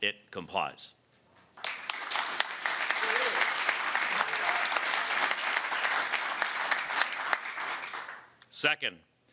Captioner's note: applause